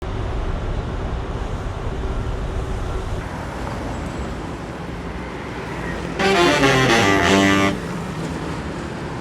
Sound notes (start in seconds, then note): 0.0 urban Noises